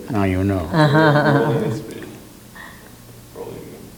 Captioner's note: interviewer laughs